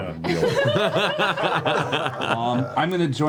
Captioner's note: all laugh